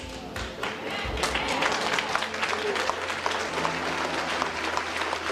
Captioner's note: congregation applauding